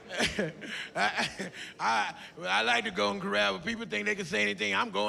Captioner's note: laughs